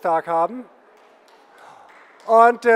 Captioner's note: general applause